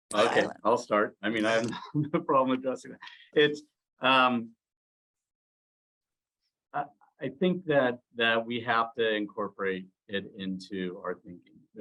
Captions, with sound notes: - Silent. - Okay, I'll start. I mean, I have (laughs) no problem addressing it. I think that we have to incorporate it into our thinking.